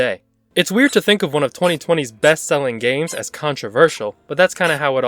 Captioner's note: continuous Sqeuaking